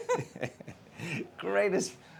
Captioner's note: laughs